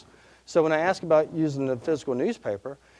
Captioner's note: none